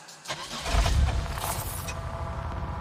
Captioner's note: car